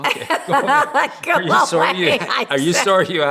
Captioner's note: laughs